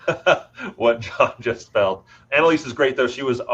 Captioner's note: chuckles